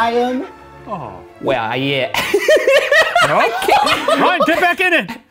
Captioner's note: laughing